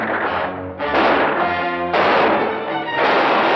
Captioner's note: gunfire